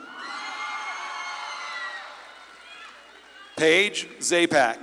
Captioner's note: audience claps and cheers